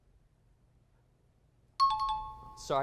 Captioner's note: high-pitched tones